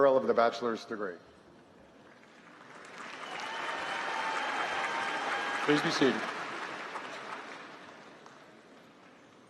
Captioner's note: applause